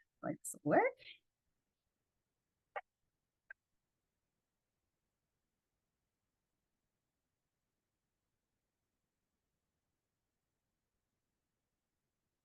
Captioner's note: silence